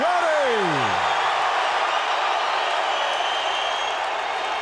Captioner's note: audience cheering